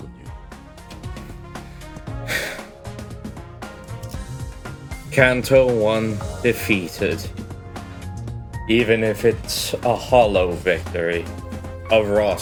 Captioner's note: sigh